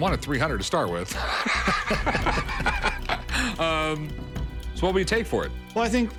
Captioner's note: laughs